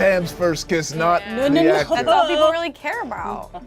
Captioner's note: overlapping chattering